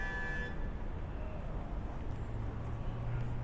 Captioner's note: traffic noises